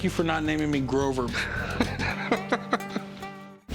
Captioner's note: laughing